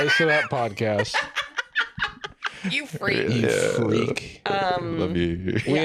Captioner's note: cackles